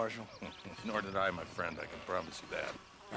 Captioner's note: laughs